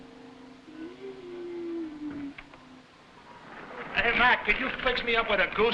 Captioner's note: wheezing